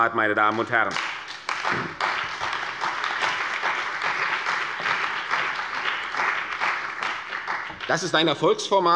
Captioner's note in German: Beifall bei der CDU und dem BÜNDNIS 90/DIE GRÜNEN